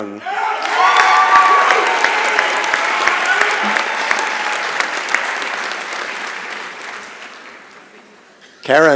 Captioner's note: applause and Cheering